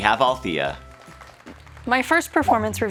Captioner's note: crowd clapping